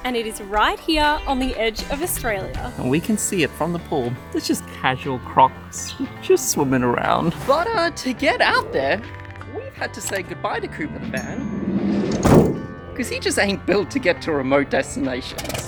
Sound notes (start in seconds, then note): 12.0 van door slamming shut